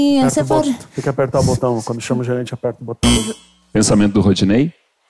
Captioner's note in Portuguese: campainha